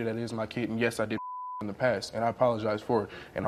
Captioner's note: beep